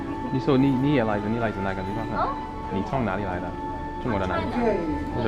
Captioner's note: mandarin